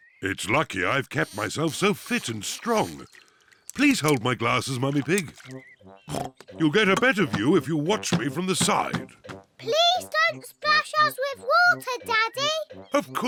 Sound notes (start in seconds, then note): 6.1 oinks